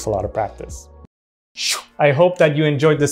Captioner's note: vocalizing whooshing